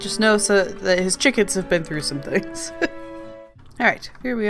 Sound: laughs

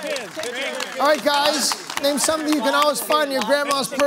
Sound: audience groans; shouting answers

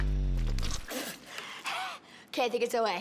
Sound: spitting

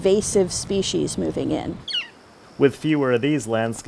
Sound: bird chirping

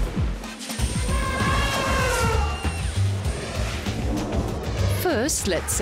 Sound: elephant trumpeting

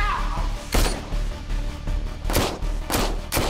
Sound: gunshots

